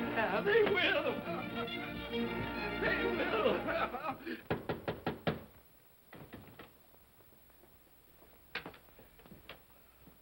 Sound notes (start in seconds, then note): 2.8 laughing; 4.5 knocking on door; 6.1 door rattles; 8.4 door unlocks